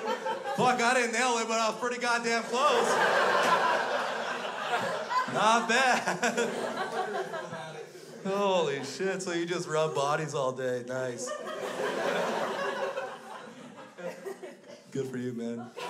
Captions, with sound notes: - Fuck, I didn't nail it, but I was pretty goddamn close! (crowd laughs) Not bad! (laughs) (crowd laughs) Holy shit! So you just rub bodies all day. Nice! (crowd laughs) Good for you, man!